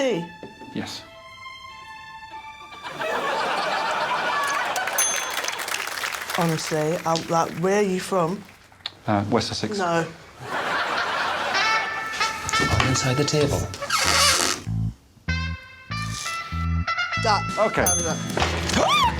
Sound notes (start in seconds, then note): 4.8 bell rings; 14.4 table creaks